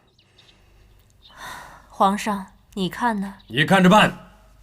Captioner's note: sigh